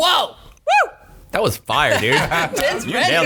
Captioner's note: laughing